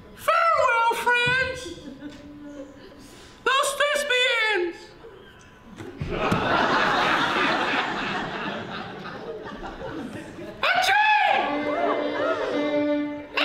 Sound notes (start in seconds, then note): 6.0 laughter